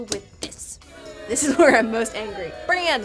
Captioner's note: audience booing